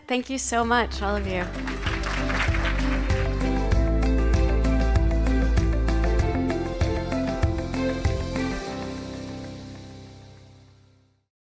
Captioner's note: applause